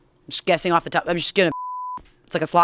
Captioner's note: beep